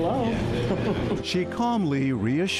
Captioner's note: both laughing